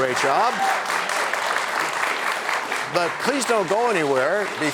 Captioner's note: applause